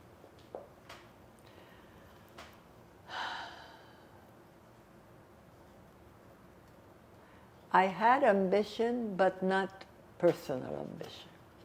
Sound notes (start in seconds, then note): 3.0 sighing